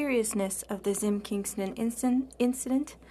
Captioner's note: speaking French